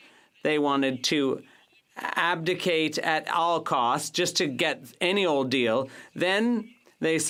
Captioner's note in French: voix de l'interprète